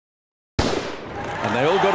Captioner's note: starting pistol pops